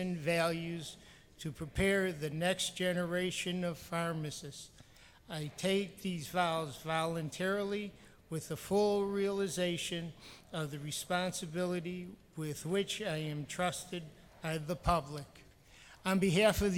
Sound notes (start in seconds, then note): none